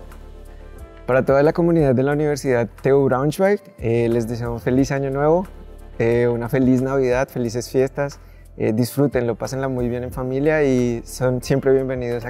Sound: in Spanish

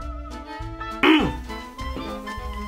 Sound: grunts

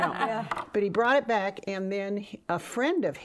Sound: women laughing

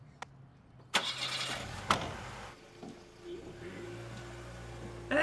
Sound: engine starts

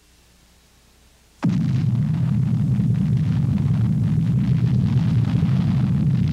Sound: bomb exploding

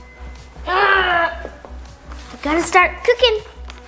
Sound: groaning

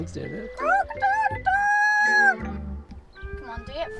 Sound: cock-a-doodle-doo

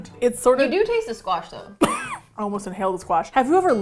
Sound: coughs

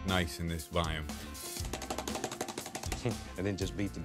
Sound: paintbrush slapping

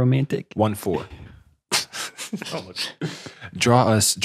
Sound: laughing

